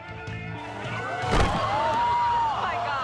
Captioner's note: crowd shrieking